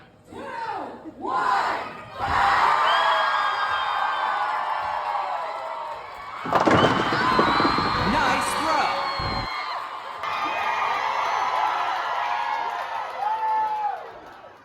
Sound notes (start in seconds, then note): 6.3 bowling pins falling sound; 6.9 crowd cheers; 8.9 Wii voice; 11.5 crowd cheers